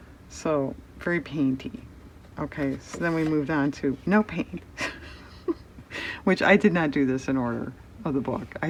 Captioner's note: laughs